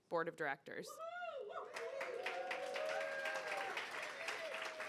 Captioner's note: audience applauding